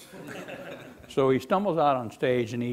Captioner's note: laughing